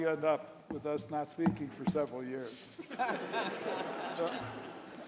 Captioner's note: laughter